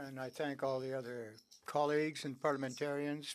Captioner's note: speaking French